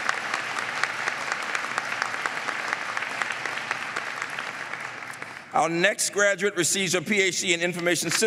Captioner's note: applause